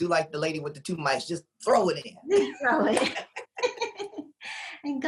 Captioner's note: laughs